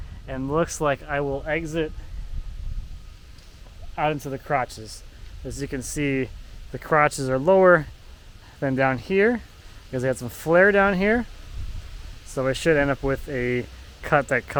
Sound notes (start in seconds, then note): none